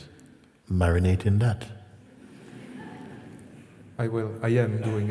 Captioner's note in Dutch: gelach